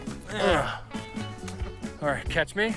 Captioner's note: both grunt